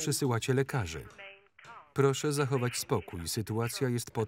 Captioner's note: intercom